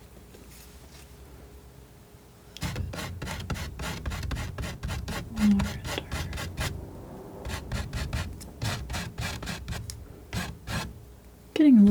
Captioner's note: scratching